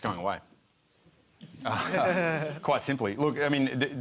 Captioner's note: laughter